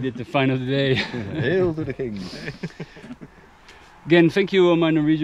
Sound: laughing

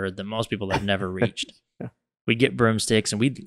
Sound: chuckles

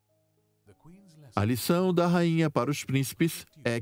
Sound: voiceover

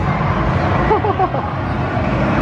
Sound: chuckles

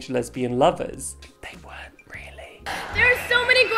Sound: whispering

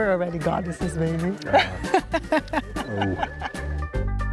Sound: laughs

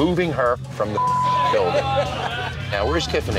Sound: beep

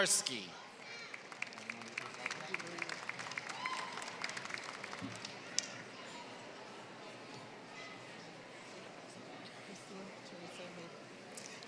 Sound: applause

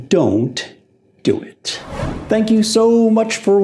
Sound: air swooshing

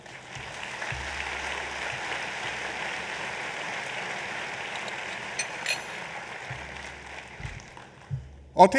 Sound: applause

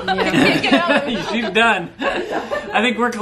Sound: laughing

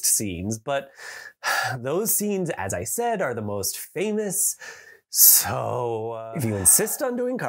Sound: heavy sigh

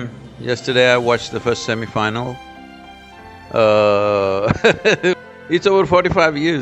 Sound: laughs

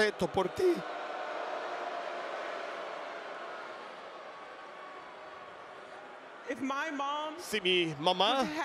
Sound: applause

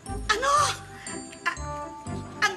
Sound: Mother Superior gasps; stammers

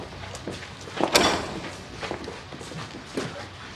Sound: clanging

